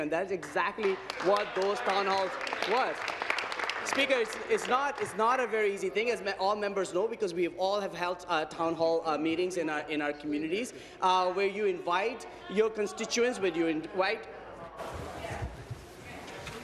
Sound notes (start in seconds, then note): 5.3 applause